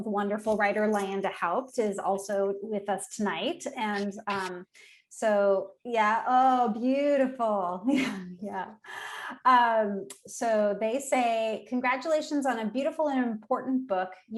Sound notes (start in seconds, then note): 6.8 chuckling